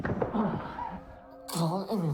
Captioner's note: Mark gasping